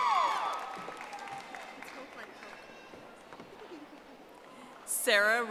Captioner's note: audience applauding